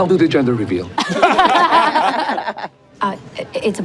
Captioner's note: everyone laughs